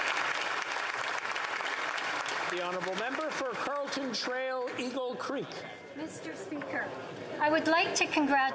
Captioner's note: applause